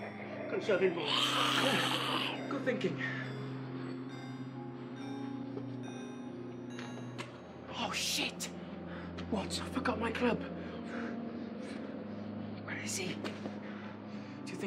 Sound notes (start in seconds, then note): 0.0 snarling